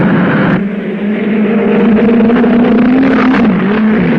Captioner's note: cars whirring